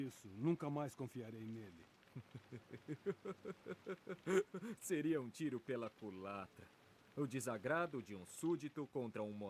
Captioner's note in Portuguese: risadas